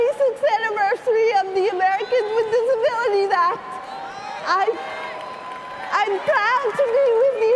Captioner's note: cheering and applause